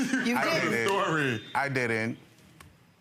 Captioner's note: laughs